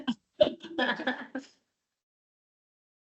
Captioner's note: laughter